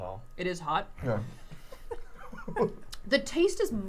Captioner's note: laughs; laughing